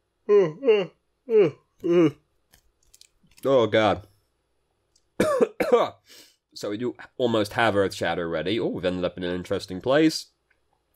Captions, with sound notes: [extended yawning] Oh, god. [cough] So we do almost have Earth Shatter ready-- ooh, we've ended up in an interesting place.